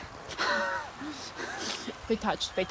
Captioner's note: soft laughter